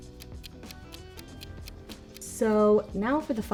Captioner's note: timer ticking; chilled music